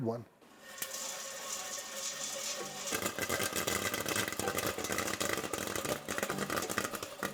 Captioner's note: popcorn pops; upbeat music